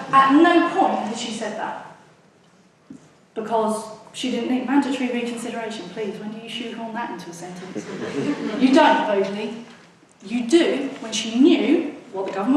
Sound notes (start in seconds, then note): 7.6 audience laughs